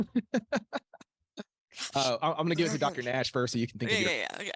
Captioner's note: laughing